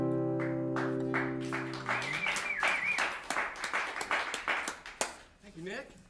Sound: applause

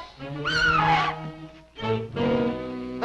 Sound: Mary screams

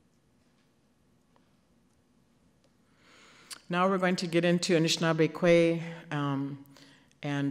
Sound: none

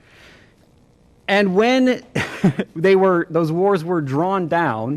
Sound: laughter

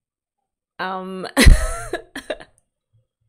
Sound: laughs

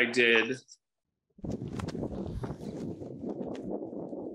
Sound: wind blowing

